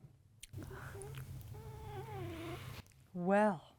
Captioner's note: subtle purring